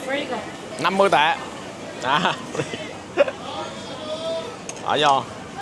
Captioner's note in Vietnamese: tiếng cười